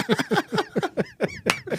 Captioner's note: both laughing